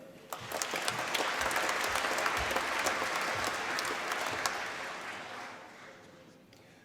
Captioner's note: applause